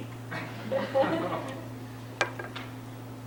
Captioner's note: laughter